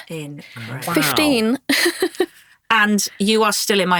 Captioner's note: chuckling